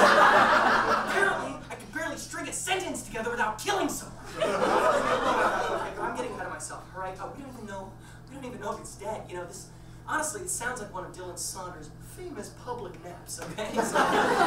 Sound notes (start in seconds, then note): 0.0 audience laughs; 4.2 audience laughs